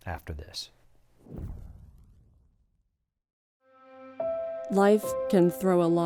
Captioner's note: logo swooshes